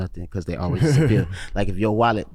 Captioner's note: laughs